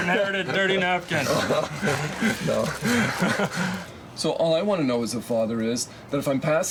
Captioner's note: laughs